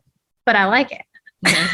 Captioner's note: laughter